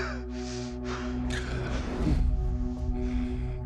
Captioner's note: gasps